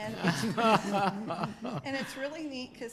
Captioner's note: laughs